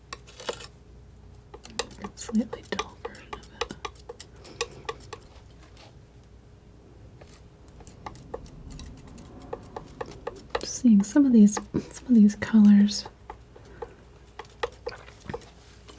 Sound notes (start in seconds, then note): 4.4 tapping; 12.7 tapping